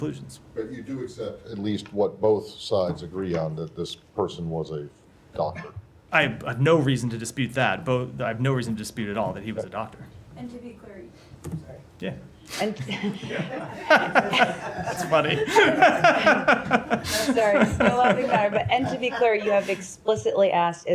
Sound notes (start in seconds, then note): 14.0 laughter; 16.6 laughter